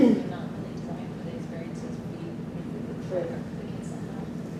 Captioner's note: voice fades